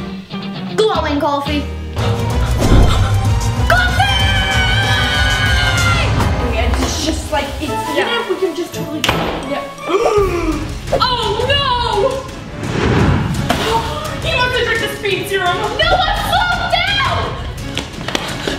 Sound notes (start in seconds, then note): 4.2 screaming; 9.8 gasping